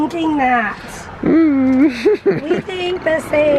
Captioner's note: chuckling